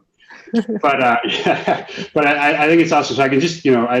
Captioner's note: laughing